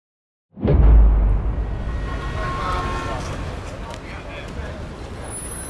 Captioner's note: car horns blaring